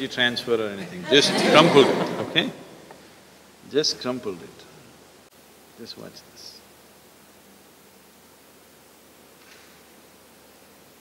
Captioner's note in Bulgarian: участниците се смеят